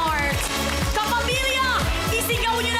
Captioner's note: applause